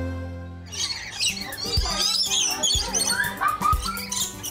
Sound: birds chirping

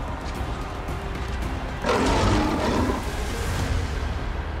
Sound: lion roars

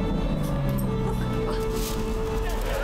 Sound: engine revving; dog groan; paper tearing

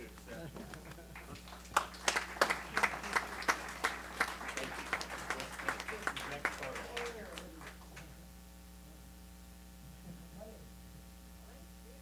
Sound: applause

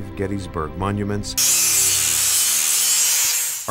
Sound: tool grinding

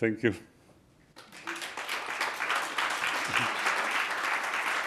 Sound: applause

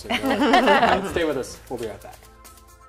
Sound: laughs

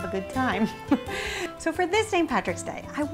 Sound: laughs

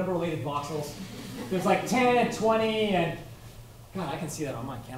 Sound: laughter

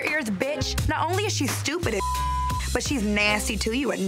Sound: beep

